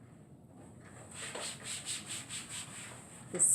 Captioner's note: scrubbing sounds